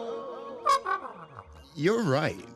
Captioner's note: hooting